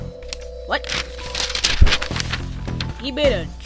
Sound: crinkling sounds

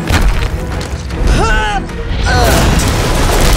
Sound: grunting

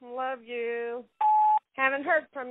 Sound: phone beeps

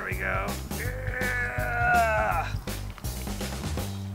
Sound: groans; laughs; fun music

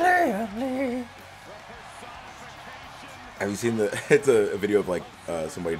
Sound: applause

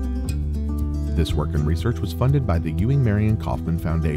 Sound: voiceover

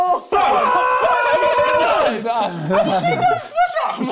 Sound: crowd mumbling

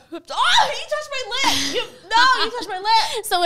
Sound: screaming

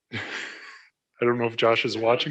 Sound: laughs

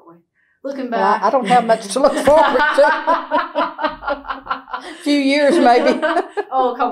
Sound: laughter

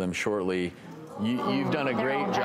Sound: audience aww-ing

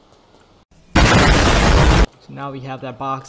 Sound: explosion

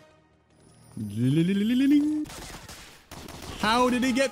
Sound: chimes impression

